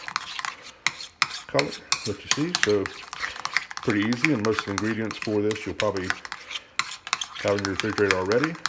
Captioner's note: stirring